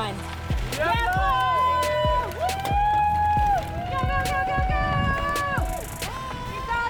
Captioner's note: cheering